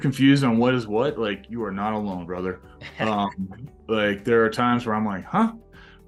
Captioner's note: laughs